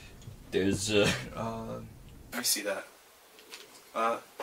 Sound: laughs

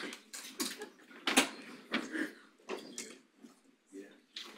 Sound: audience chattering faintly

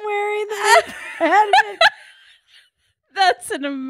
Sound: both laughing hysterically

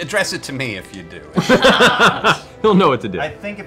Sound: laughs

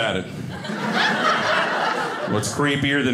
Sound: audience laughing

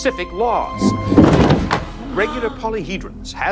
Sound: Zenon crashing to the floor

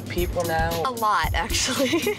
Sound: laughs

